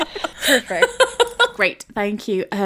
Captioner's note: laughing